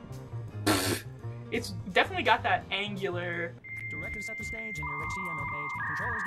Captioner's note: dial up noises